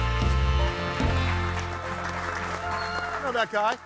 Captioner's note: audience cheering and applauding